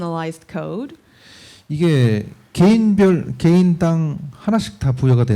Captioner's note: speaking korean